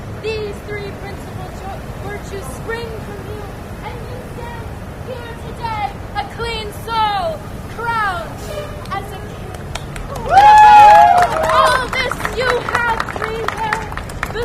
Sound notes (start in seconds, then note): 9.4 applause